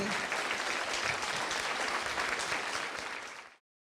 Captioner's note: applause